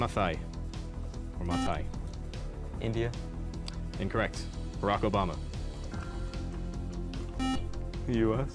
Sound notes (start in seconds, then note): 0.6 buzzer; 7.4 buzzer